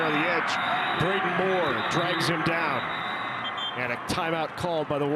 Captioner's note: referee blows whistle